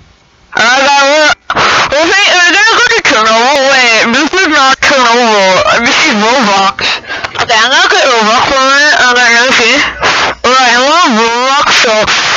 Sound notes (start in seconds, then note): 6.8 gasps